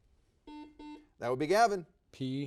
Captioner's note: buzzer dings